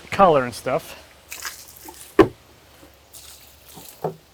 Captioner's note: water sloshing